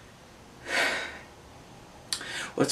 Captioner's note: sigh